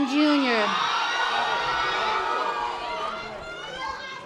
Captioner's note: audience applause